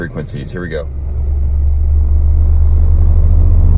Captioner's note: engine revving